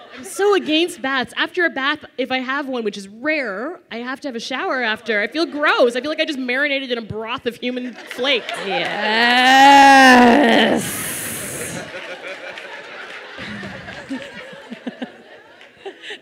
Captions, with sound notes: - I'm so against baths, after a bath, if I have one, which is rare, I have to have a shower after, I feel gross. I feel like I just marinated in a broth of human flakes. - Yeeeeess (laughter)